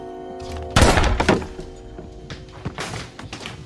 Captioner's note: gun shot